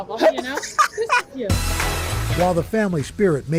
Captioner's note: laughter